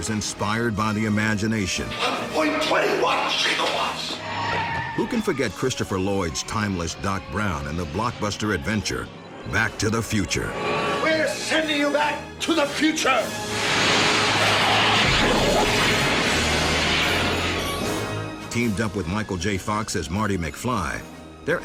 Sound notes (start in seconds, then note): 13.5 car whooshing; 14.9 flaming blazing